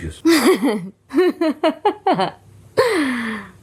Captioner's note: laughs out loud